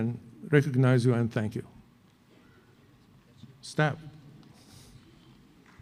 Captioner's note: applause